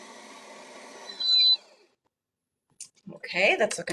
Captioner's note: mixer beeps